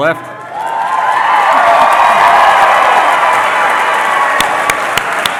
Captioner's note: cheering and Applause